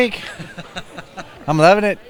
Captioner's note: laughter